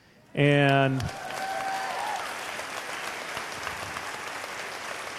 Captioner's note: cheers/applause